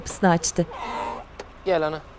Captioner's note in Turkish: Kapı gıcırtı sesi